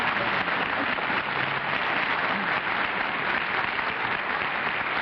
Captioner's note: applause